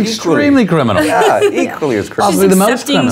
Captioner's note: laughing